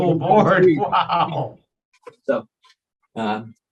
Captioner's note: interviewer laughs